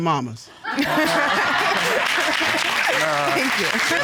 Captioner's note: laughing